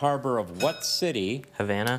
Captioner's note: bell dings